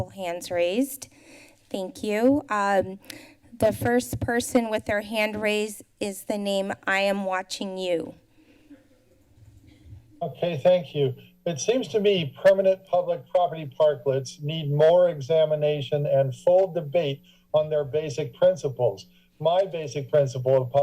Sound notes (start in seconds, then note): 8.1 silence